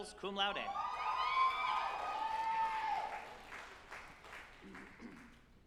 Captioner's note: group applauding and cheering